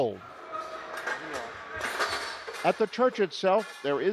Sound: workmen bustling

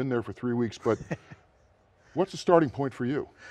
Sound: laughs

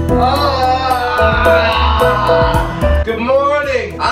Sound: yawns

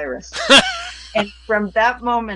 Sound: laughs

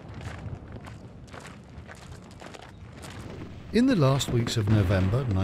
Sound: boots shuffling

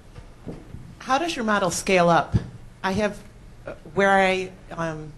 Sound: voiceover

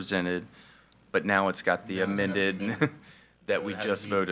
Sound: chuckles

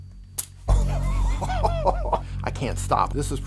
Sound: laughing

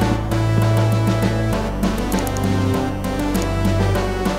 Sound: mouse clicking

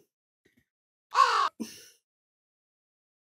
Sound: caw

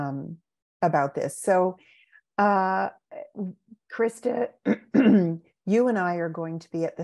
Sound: clears throat

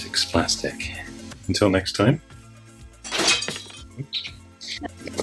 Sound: glass shattering

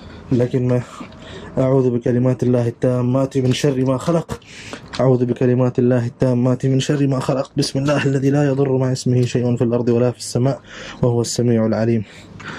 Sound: Arabic

